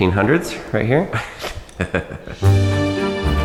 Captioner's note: chuckling; gentle music